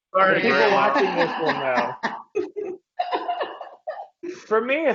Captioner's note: laughing